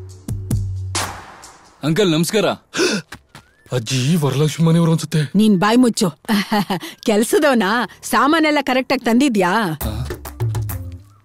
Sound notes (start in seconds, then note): 2.7 gasps